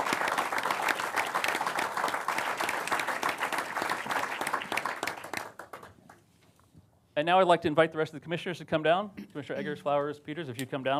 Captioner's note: applause